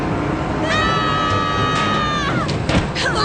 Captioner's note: all yelling